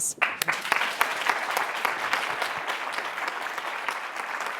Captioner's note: group applauds